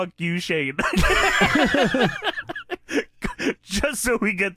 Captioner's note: wheezed laughter